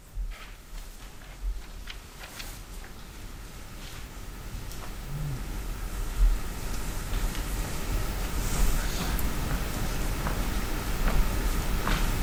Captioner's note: soft rustling